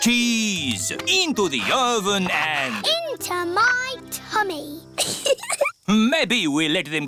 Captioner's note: giggles